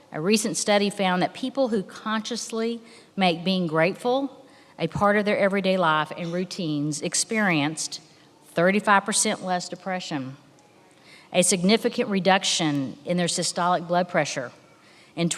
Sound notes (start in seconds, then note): none